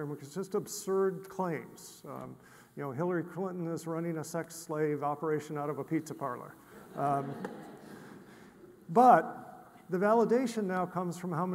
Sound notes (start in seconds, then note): 6.7 audience laughs